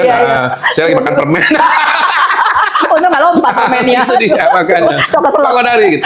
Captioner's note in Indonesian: tertawa